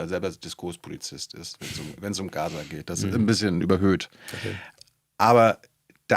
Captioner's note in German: räuspern